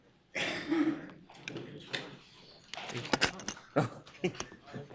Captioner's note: audience murmurs